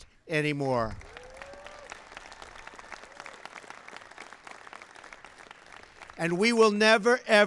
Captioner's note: applause